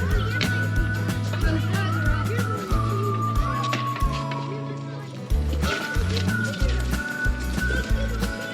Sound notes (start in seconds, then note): 3.8 kids playing and laughing